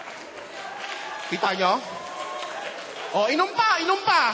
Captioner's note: laughter, applause; audience cheering